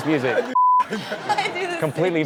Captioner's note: beep